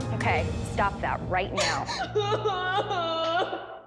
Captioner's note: sobbing